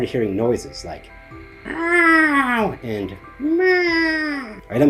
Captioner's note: various spooky sounds